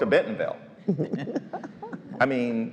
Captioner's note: laughs